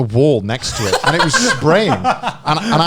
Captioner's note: laughing